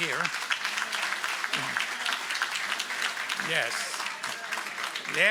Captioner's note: applause